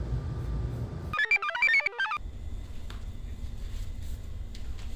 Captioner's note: computer chirps